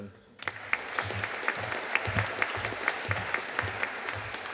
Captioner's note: audience applauding